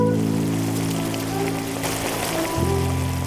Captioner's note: oil Sizzling